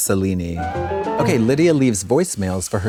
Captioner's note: bright chime